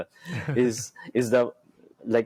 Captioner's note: chuckles